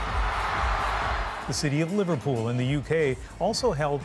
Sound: cheers and Applause

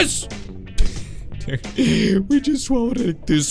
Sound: laughing

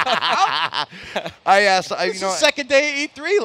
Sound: laughs

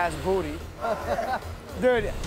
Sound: laughs

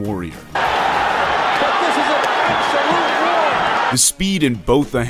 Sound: crowd cheering

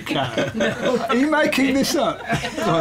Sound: laughter

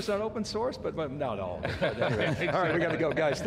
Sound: laughs

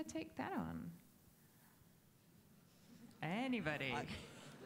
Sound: audience chuckling

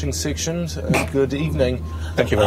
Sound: snort

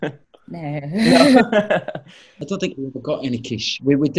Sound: laughter

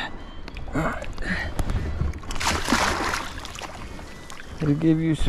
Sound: loud splash

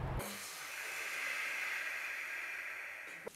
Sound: loud breathing

